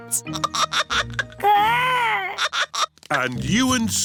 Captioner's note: giggling